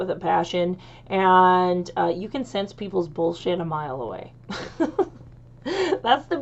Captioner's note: chuckles